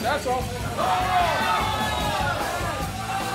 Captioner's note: cheering